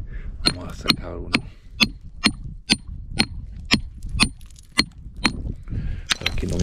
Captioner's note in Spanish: martillazos